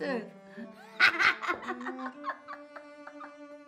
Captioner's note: laughing